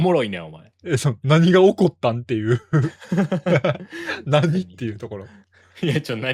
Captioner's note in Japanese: 笑い